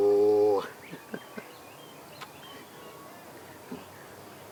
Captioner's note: birds chirping